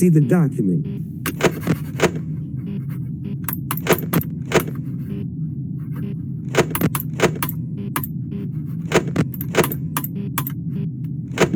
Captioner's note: Sons de mouse